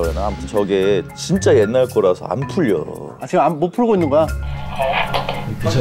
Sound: struggling

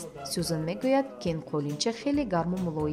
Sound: journalist narrating in tajik

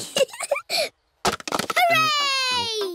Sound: giggling

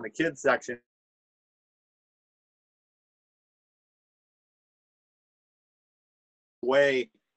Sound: audio cuts off

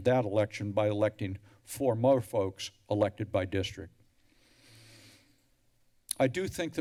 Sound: deep breaths

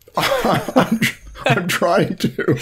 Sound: laughter

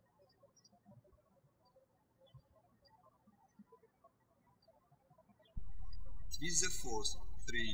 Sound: birds chirping

